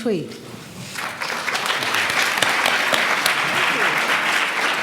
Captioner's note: audience claps